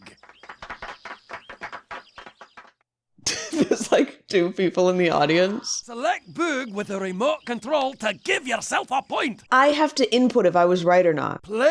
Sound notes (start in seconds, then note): 0.0 shallow clapping; 3.3 laughs